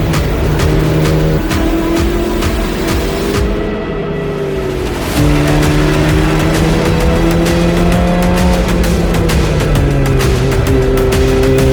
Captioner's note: upbeat music; engine revving